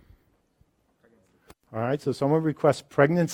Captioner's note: voiceover